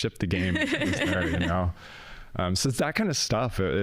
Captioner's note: laughing